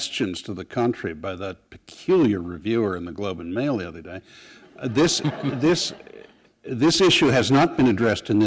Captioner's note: chuckle